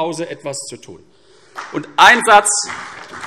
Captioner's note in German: Beifall CDU und vereinzelt BÜNDNIS 90/DIE GRÜNEN